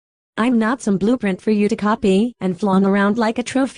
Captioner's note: voice rising, pained